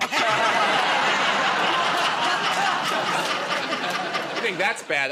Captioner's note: laughter